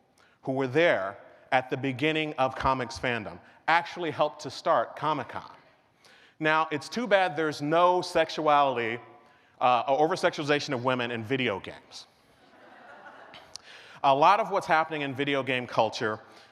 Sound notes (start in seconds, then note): 12.4 laughter